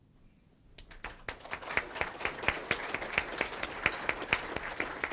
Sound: audience applauds

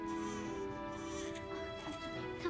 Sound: baby crying

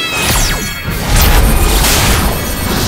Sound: crashing

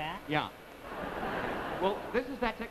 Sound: audience laughs

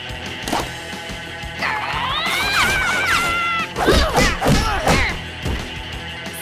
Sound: grunting

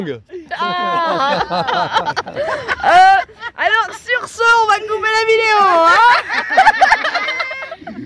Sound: laughs

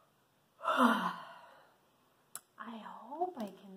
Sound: sighs

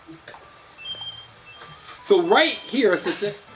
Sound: bells chiming

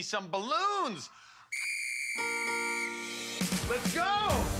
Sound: whistle blowing

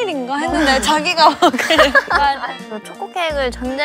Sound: laughs

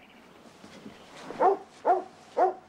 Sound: barking

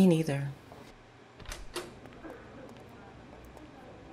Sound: door opening and closing

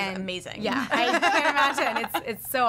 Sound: all laughing

